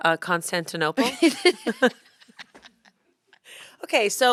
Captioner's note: laughter